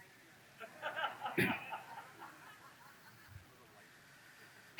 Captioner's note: audience laughs